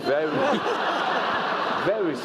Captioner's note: laugh